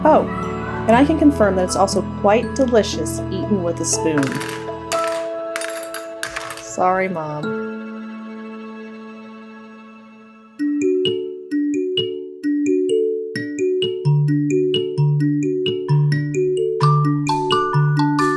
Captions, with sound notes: Oh, and I can confirm that it's also quite delicious eaten with a spoon. (spoons rattling) Sorry Mom. (happy music)